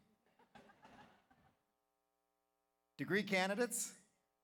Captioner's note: audience laughs